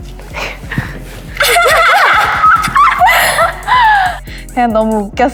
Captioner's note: giggling